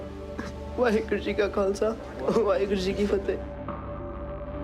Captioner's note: speaking foreign language